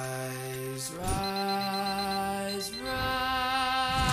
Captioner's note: alarm beeping